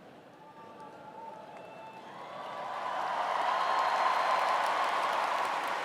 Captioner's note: cheers and applause